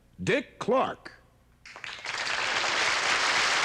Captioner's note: applause